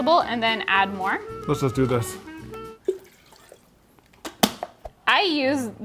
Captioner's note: water splashing